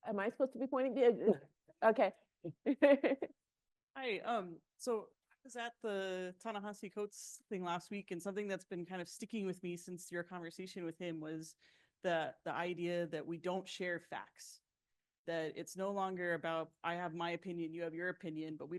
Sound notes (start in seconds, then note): 2.6 chuckles